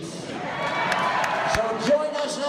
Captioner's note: audience cheers